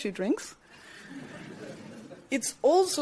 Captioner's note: crowd murmurs